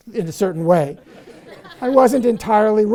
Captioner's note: audience laughs